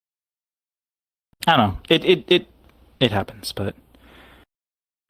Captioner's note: stammering